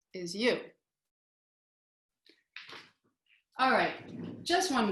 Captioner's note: silence